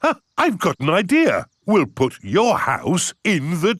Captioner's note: gasps